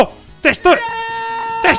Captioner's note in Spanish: grita